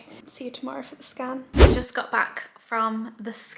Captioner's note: whooshing sound